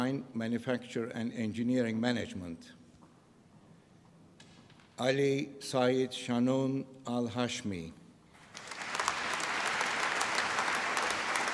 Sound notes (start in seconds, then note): 8.3 applause